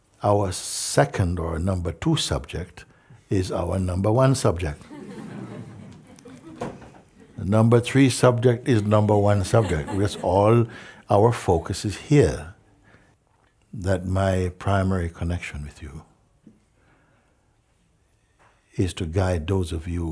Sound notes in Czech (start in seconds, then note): 4.8 smích